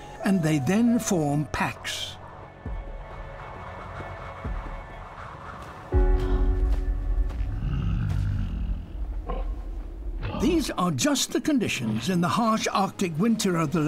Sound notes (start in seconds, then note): 2.3 wind blowing; 7.4 growling